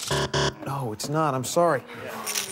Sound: buzzer

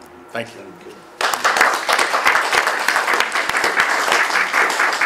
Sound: clapping

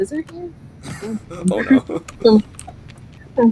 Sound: laughs

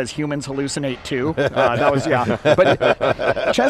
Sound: laughing

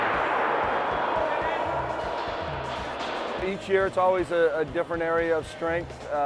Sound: gunshot

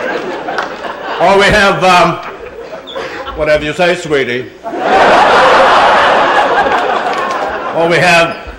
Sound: laughter

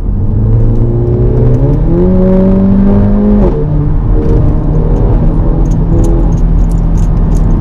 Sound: sweet amg exhaust

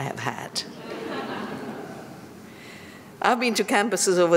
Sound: laughter

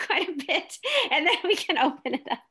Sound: laughing

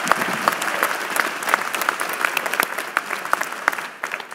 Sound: applause

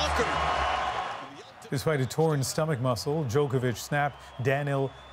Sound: cheers and Applause

